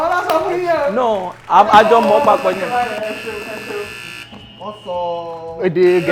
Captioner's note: buzzer pressed